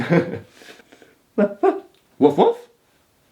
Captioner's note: laughing; imitating dog barking